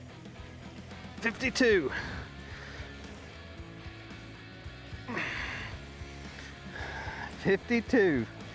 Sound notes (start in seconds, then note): 5.0 grunting